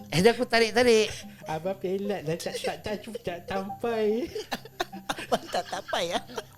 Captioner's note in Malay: ketawa